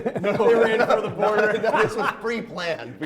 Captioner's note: laughter